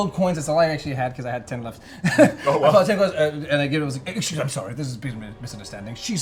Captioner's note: laughs